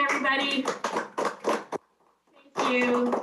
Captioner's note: family applauding